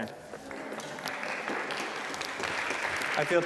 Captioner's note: applause